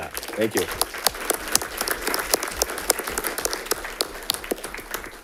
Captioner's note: audience clapping